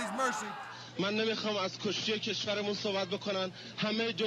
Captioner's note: Farsi spoken audio